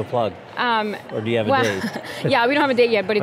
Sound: chuckles

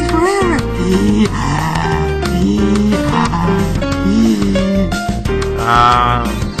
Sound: breathing hard

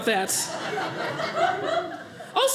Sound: audience laughing

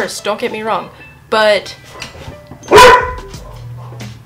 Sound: dog barks loudly

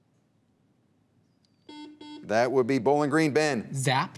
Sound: buzzer beeps

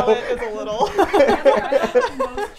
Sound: everyone laughs

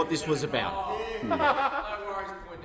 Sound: laughter

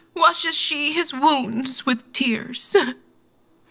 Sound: none

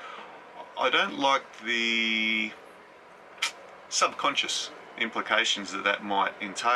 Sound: sucks teeth

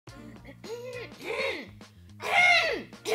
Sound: clears throat

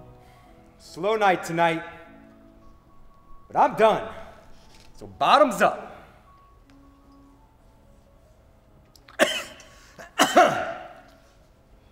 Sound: coughs

